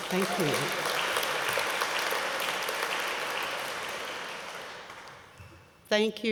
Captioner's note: applause